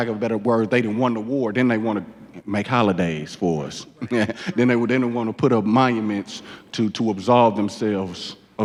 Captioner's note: laughs